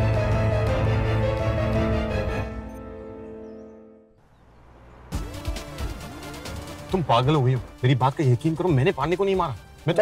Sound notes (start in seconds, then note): 4.1 Car speeding